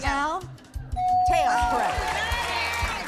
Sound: bell dings

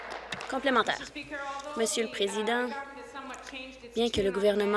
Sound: applause

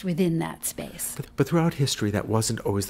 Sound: voiceover

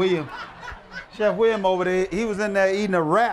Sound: laughter

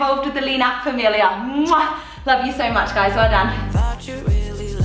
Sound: smacks lips

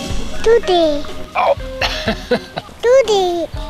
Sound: groans

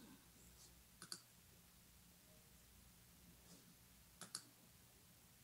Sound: mouse clicking

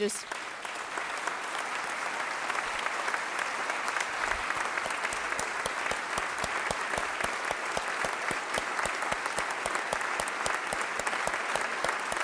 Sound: applause

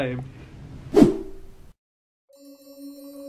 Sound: screen wipe whooshes; magical outro music

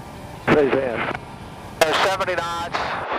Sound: radio chatter

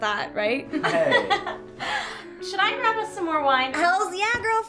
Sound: laughter

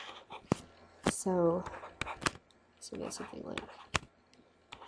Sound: scribbling

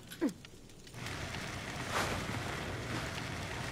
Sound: fire burning

